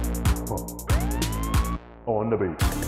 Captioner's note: police siren